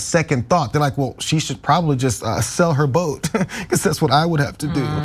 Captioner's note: laugh